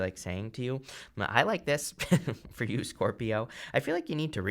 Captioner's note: chuckles